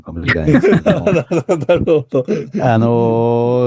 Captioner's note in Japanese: 笑い